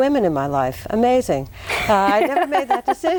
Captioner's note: laughs